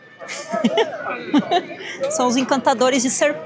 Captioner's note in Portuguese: risadas